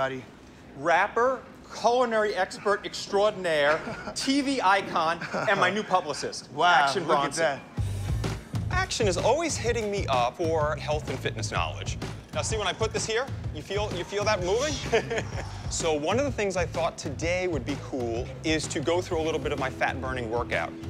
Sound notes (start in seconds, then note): 13.8 laughs